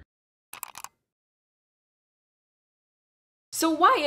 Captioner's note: keyboard clicking